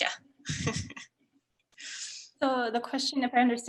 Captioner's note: chuckles